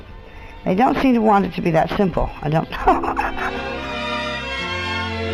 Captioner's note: laughs